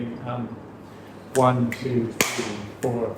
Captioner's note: clap